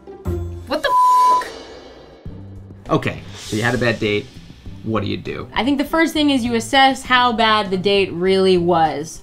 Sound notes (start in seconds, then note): 0.8 beep